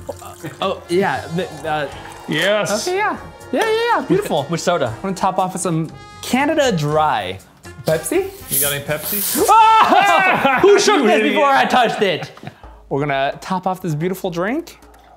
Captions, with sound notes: Oh, yeah. But-- - Yes. - Okay, yeah. Yeah, yeah, yeah, beautiful. - Which soda? - I'm gonna top off with some Canada Dry. Pepsi? - You got any Pepsi? (screams) - Who shook this before I touched it? - We're gonna top off this beautiful drink.